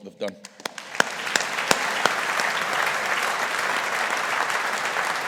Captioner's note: audience applauding